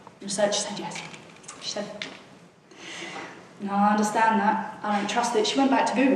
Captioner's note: takes deep breath